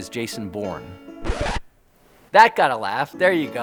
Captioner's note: record scratches